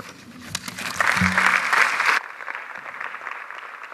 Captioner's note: audience applauds